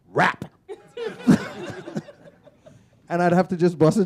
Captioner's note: laughter